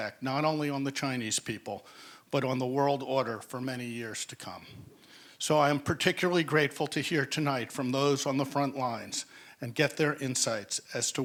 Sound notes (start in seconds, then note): none